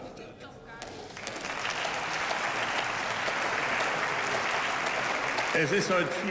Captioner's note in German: Beifall